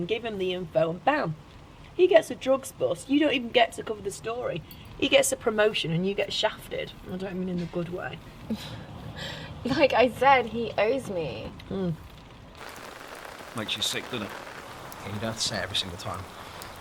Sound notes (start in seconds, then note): 8.4 laughs